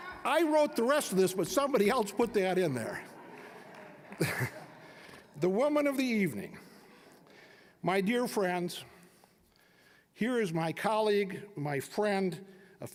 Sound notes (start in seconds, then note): 4.3 all chuckling